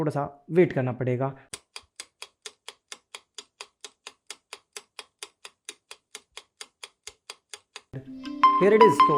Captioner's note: stopwatch sound